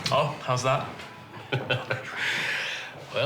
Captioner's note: chuckles